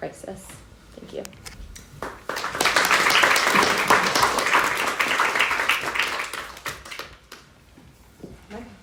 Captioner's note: applause